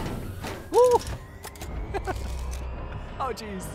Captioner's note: laughing